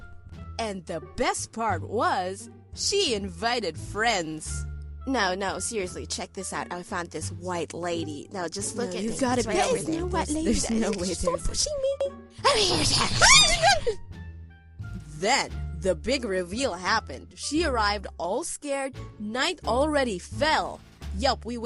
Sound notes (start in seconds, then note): 8.7 group mumbling; 12.4 more Fake Creepy Sounds; 13.1 group Scream